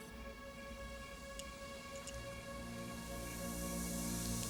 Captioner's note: drink fizzing